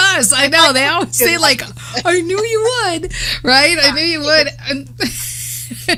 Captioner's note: laughs